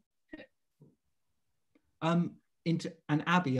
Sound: gap in audio

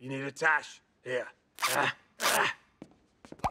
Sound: strains

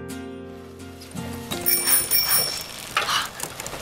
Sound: bicycle bell chiming; beathing heavily

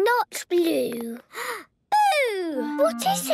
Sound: gasps

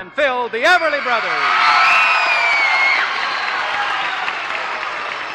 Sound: cheers, applause

